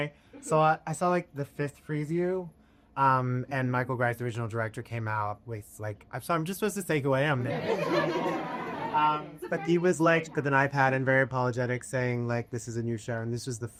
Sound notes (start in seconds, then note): 7.4 laughter